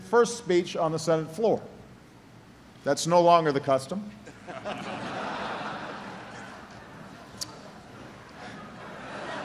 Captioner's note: laughter